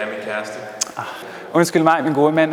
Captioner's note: sigh